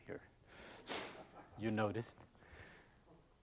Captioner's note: laughs